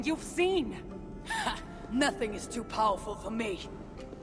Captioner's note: laugh